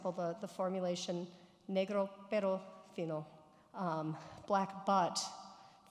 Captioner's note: speaking foreign language